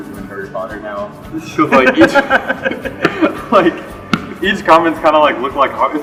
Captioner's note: laughter